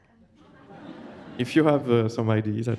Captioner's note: audience laughs